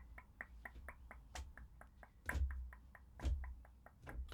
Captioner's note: tapping